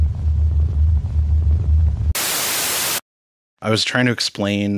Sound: TV static buzzes

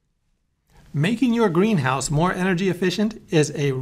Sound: voiceover

